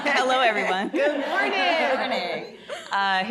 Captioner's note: audience laughing